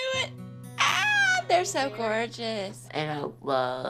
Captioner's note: exclaims